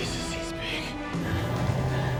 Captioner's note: computerized humming